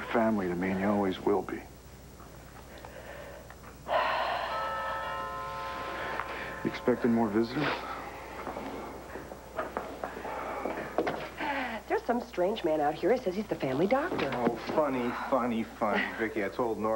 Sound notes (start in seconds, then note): 6.2 doorbell rings